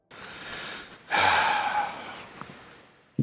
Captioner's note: sigh